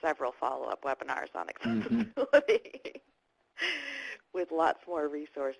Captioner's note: laughs